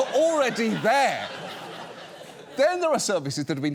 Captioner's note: audience laughs